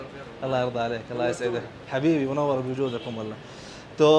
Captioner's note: talking in Arabic